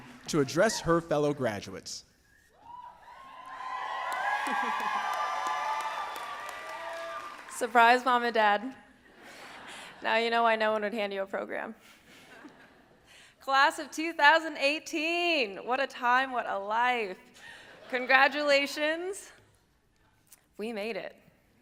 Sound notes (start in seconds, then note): 2.6 audience cheering